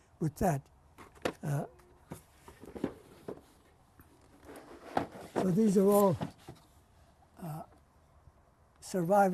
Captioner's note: pauses for 3 seconds